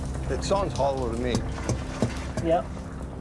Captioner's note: thudding